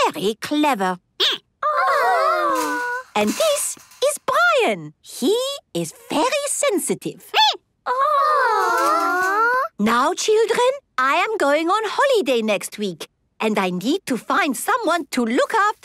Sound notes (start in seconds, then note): 5.0 squeaking